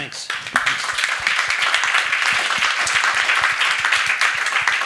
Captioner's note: attendees applauding